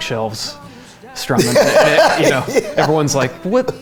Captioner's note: laughs